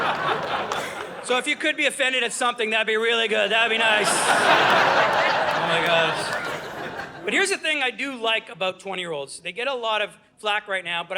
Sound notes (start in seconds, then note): 0.0 audience laughing; 3.4 audience laughing